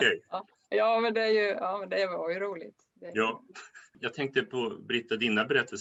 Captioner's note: Skratt